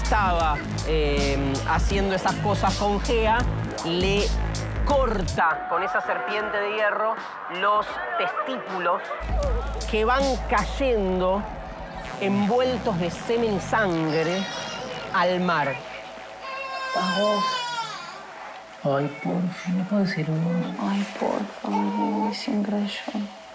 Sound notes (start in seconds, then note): 16.3 baby crying